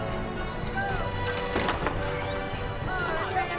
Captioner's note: bolt turning